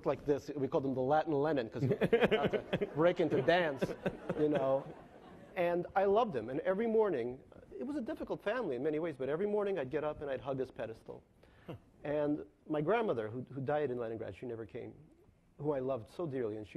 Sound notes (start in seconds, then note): 4.5 laughing